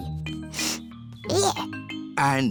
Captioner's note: sniffs